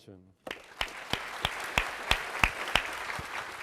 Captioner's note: audience claps